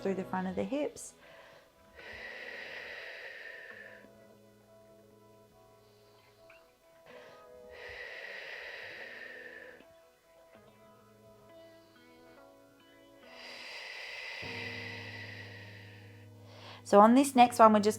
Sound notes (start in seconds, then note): 0.0 upbeat music; 5.3 exhales